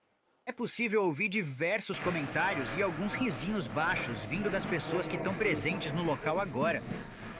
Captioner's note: comments and chuckles